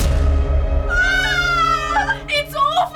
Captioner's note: shrieking